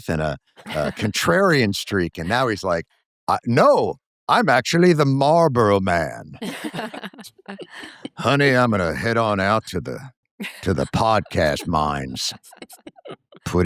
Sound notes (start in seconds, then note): 6.4 laughter